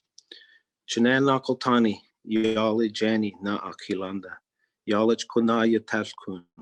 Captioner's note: speaking in Native Language